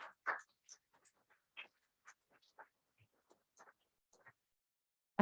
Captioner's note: applause